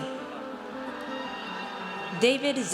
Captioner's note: audience cheers